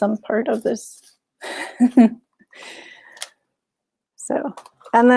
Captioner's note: chuckles